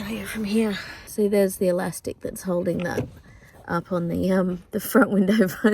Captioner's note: elastic sproings